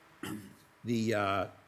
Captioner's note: clears throat